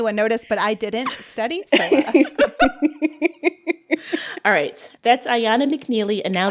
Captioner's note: laughter